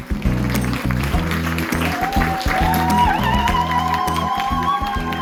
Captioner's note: applause, cheering